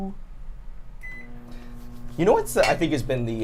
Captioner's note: microwave beeps